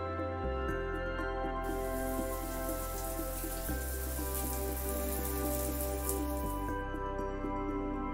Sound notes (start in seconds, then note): 1.6 water pouring